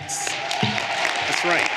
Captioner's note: everyone cheering and applauding